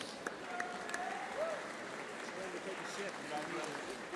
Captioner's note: audience applauding